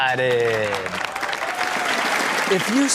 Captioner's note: audience cheers